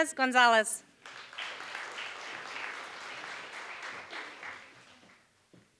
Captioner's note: applause